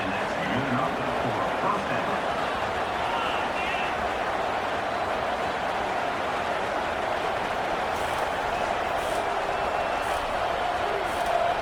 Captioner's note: crowd Noises